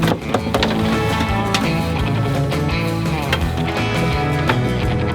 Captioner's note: bumping and rustling